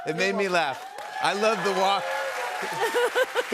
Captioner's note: cheers and applause